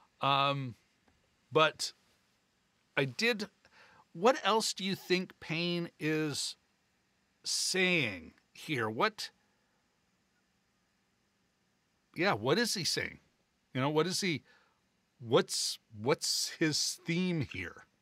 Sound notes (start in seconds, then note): none